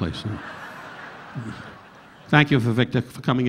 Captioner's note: audience laughing